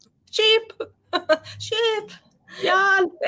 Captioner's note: woman laughing